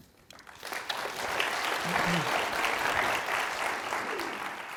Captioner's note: audience claps